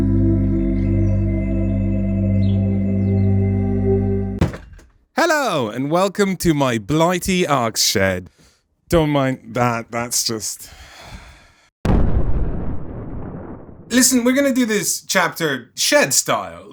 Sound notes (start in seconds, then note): 4.4 door bangs; 11.9 thunder rumble